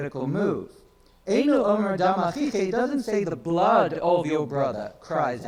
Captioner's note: speaks in foreign language